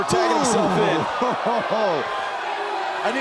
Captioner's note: crowd cheering